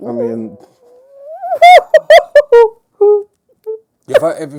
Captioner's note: laughing